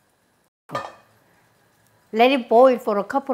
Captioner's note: lid clanking